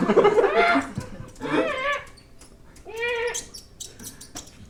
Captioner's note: robot squaking; laughter; robot squaking